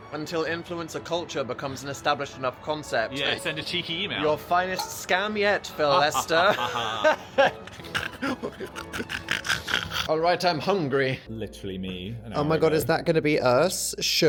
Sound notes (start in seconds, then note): 5.8 Dan laughs dramatically; 5.9 Phil laughs maniacally